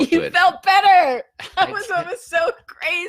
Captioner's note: laughing